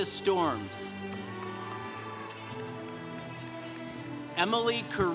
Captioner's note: congregation cheering